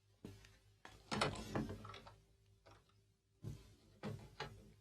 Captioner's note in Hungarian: ajtó nyílik, csukódik